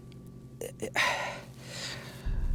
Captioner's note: exhales deeply